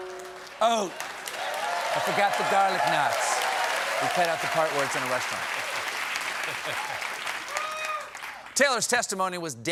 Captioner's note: cheers and applause